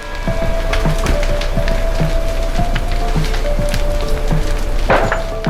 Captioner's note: fire flames crackling